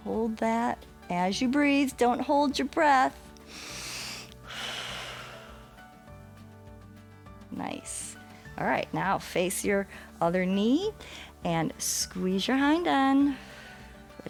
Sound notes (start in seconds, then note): 3.4 inhales and exhales